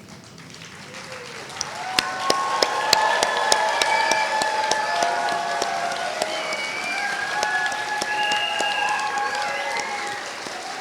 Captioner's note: applause